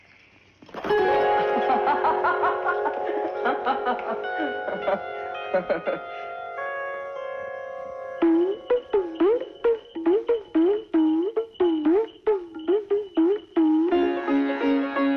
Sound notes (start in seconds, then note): 1.4 laughing